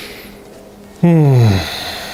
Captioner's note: smelling